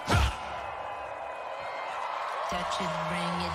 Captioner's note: cheering